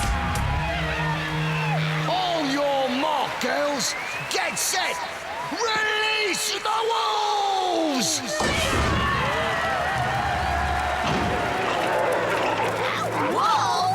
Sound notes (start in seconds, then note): 2.2 cheering